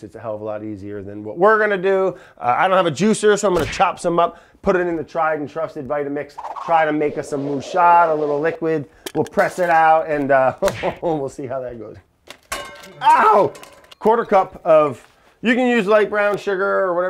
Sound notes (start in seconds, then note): 10.6 laughs; 12.4 pots clanging